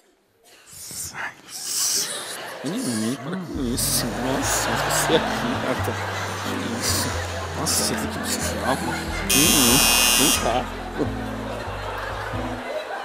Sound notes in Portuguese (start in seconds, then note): 1.3 sussurros; 9.3 campainha